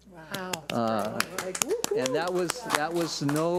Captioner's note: applauding